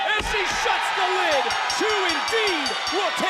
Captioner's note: bell rings